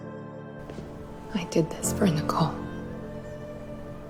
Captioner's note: voiceover